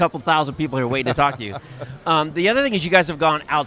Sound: chuckles

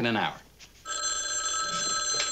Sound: phone rings

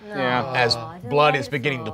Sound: groaning

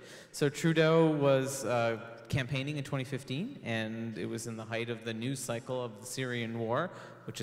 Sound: none

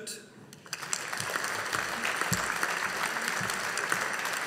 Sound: audience applauding

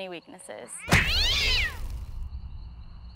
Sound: punch, cat yowls

